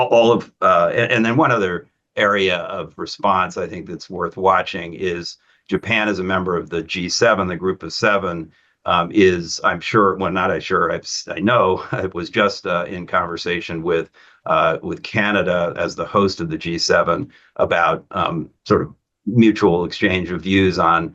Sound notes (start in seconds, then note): 12.1 laughs